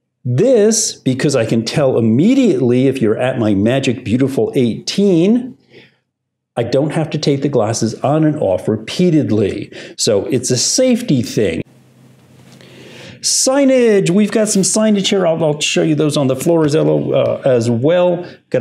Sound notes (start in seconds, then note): none